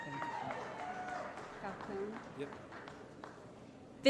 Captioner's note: applause & Cheering